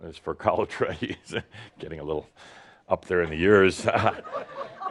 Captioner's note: more chuckles